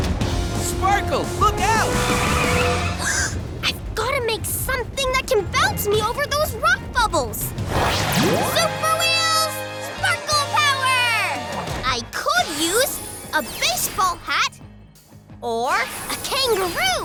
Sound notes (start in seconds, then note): 2.5 gasps